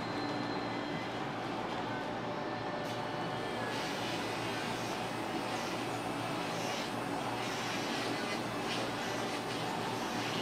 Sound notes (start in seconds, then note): 3.9 drill whirring